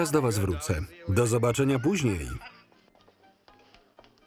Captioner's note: laughing